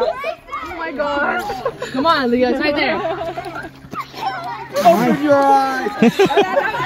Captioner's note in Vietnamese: Tiếng cười